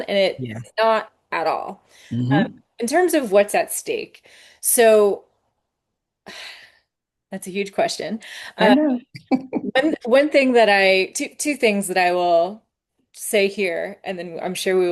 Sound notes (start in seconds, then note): 5.0 sighs; 8.6 laughs